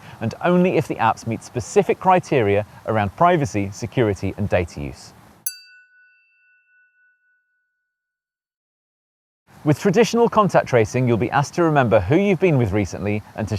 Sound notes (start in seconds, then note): 5.4 chiming tone